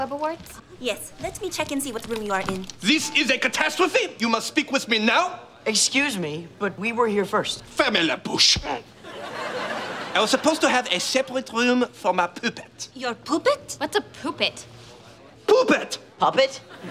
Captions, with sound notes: Yes. Let me check and see what room you are in. This is a catastrophe. You must speak with me now. Excuse me, but we were here first. [speaking foreign language] I was supposed to have a separate room for my pooppet. Your pooppet? What's a. What's a pooppet? - Pooppet. - Puppet?